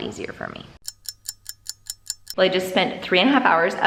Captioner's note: clock ticking